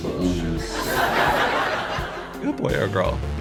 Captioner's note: audience laughs